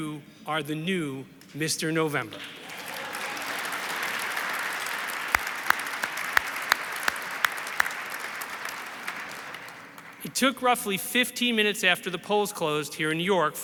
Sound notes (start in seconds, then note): 2.3 audience applauds